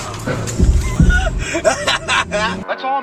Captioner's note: wheezes again; laughs hysterically again